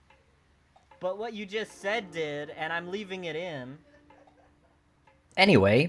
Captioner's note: distant laughter